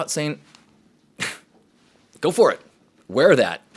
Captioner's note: scoffs